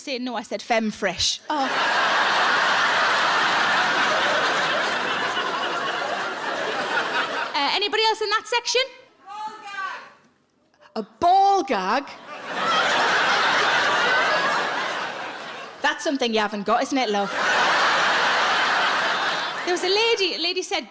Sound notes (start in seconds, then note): 1.5 audience laughs; 12.2 audience laughs